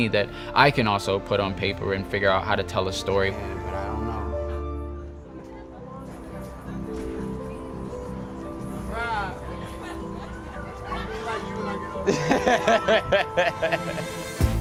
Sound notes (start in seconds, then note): 4.7 students chattering; 9.3 students laughing; 10.9 laughs